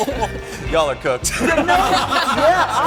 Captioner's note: laughter